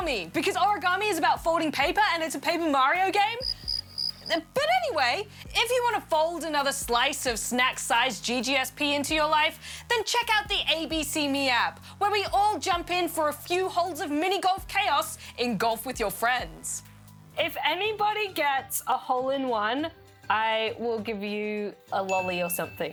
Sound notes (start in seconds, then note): 3.4 crickets chirrup